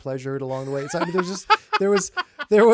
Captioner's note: laughing